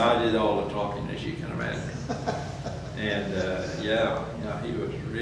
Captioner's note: laughs